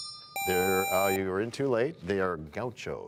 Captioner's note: bell rings, time expires